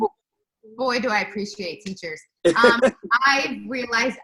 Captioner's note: laughs